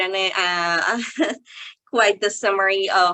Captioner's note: chuckles